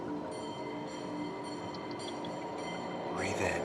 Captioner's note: trolly car bells